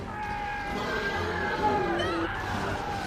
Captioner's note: suspenseful music; Thomas screaming; creature roaring